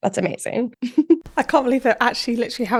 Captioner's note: laughing